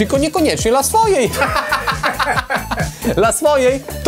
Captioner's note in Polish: śmiech